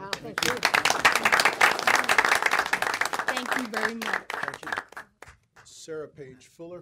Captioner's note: applause